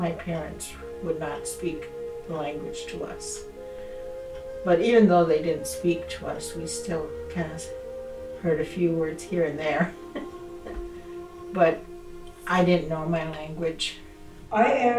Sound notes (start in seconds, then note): 10.0 she laughs